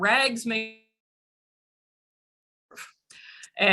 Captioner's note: audio Cuts Out